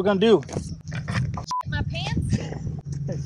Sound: beep

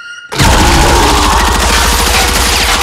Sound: roaring

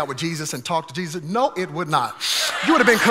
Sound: congregation laughing

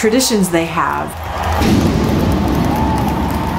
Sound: loud Fireworks

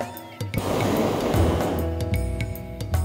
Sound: burner hissing

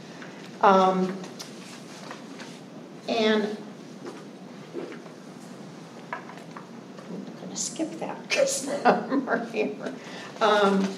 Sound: laughter

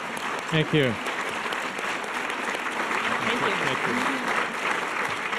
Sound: audience applause

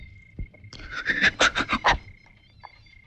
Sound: sobbing

